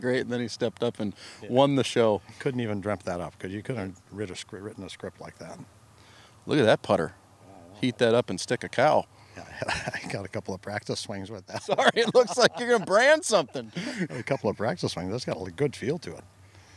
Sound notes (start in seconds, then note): 11.4 laughing